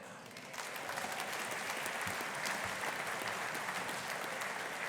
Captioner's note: audience applauding